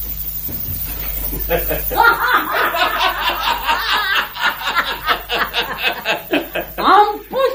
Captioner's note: they both laugh